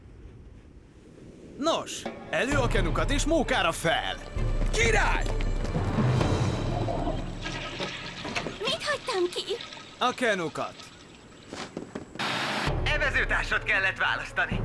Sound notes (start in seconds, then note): 6.0 toilet flushes